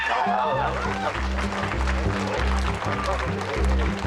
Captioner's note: cheers and applause